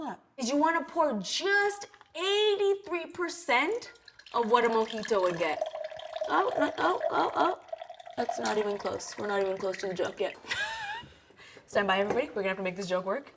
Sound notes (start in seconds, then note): 10.5 laughs